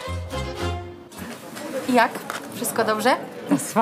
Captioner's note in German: spricht polnisch